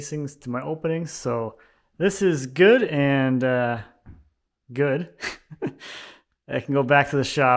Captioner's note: laughing